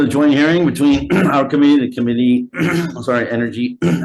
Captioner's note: clears throat